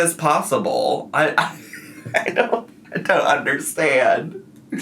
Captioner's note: laughs